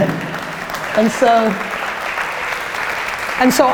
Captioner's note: audience laughter; applause